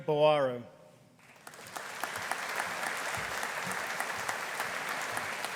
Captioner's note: audience applauding